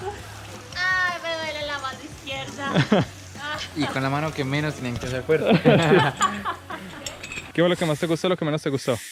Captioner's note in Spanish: risas